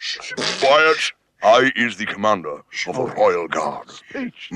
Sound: laughs

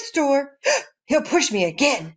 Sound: gasp

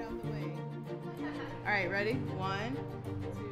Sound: athletes laughing

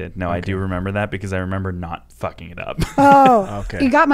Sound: laughing

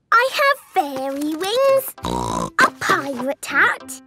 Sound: snorting

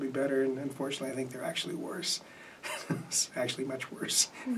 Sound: laughs

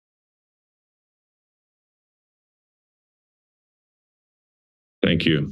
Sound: silence

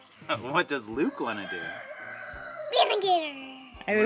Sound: laughs

